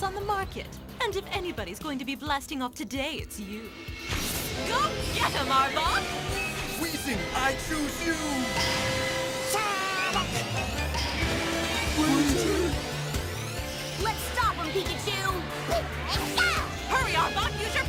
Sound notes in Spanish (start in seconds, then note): 11.5 emocionado